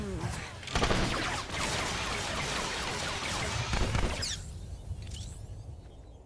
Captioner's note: gun firing